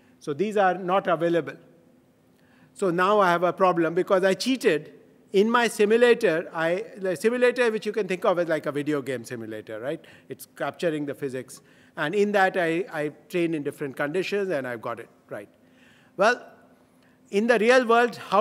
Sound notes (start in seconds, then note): none